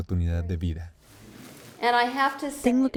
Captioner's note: Hablando idioma extranjero